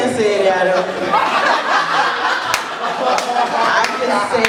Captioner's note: laughter and clapping